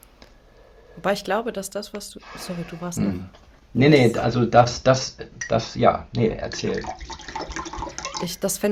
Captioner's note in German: räuspern